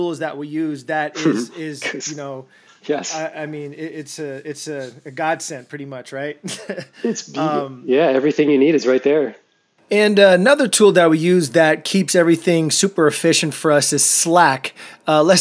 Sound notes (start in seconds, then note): 6.4 laughs softly